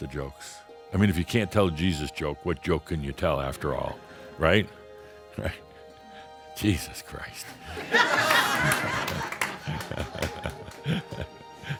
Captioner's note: laughter